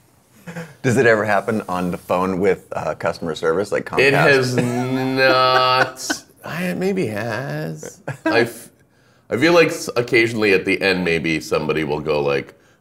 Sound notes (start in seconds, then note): 0.4 laughing; 8.8 laughing